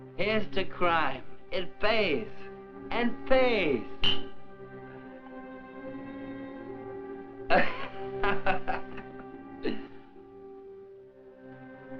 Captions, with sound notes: Here's to crime. It pays and pays. (He laughs)